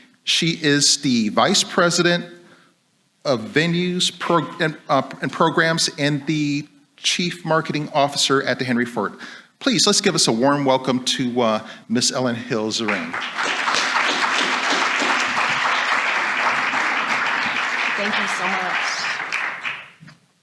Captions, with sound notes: She is the vice president of venues and programs and the chief marketing officer at The Henry Ford. Please, let's give us a warm welcome to Ms. Ellen Hill Zeringue. (audience applauds) - Thank you so much.